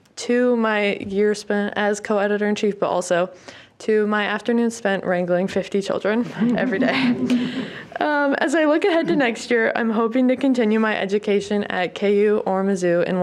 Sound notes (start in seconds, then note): 6.3 participants laughing